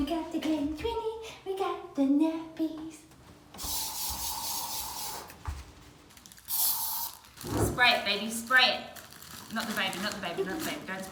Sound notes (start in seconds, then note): 3.7 hissing